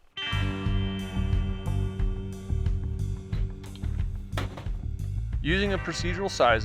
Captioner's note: lively music; tools clanging